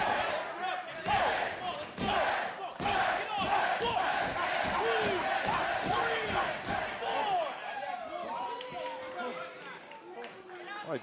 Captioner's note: fans chanting